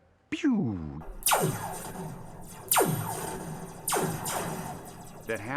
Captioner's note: sound of laser gun firing